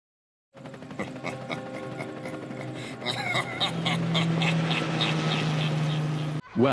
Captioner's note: Wesker’s Laugh